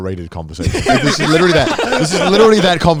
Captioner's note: everyone laughing